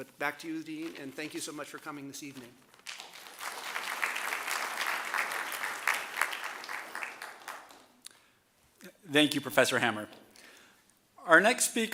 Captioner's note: applause